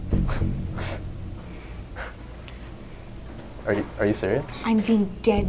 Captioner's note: Erik chuckling